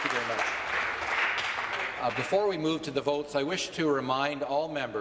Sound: applause

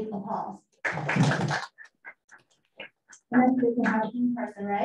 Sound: guests applauding

